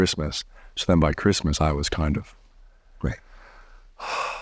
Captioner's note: deeply exhaling